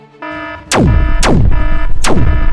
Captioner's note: zap